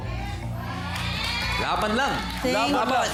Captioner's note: audience cheering